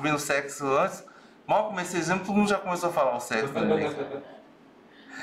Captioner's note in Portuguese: risos